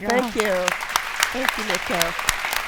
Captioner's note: audience applauds